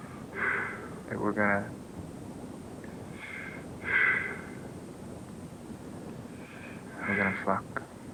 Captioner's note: breathing